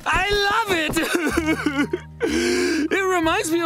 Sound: sobbing

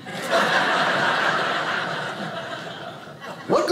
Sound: audience laughing

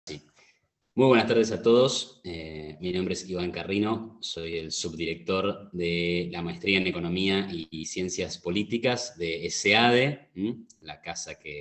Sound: Spanish

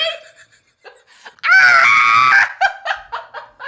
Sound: wheeze; scream laugh

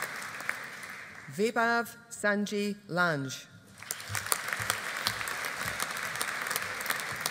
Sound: audience applauding

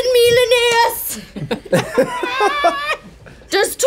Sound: party giggling

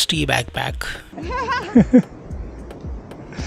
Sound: lauging

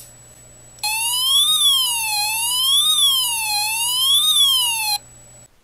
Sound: siren sound effect

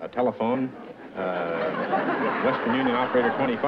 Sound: laughter

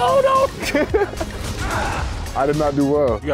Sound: laughter; shouting

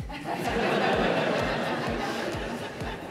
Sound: laughing

